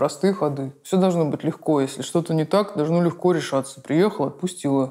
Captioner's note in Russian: грубым голосом